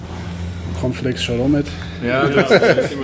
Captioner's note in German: lacht